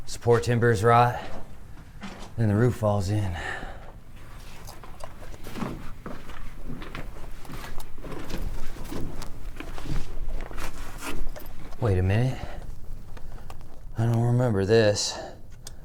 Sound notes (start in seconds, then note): 5.7 footsteps clomping; 8.0 gear rattling